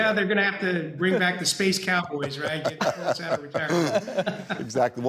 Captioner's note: laughing